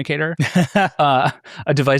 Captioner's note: laughing